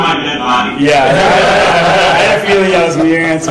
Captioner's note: laughing